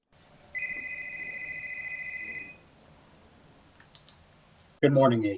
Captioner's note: laptop rings